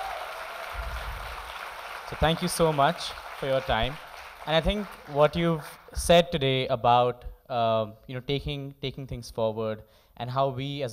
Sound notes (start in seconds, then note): 5.1 applause